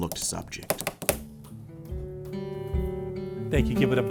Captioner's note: tapping ending; gentle music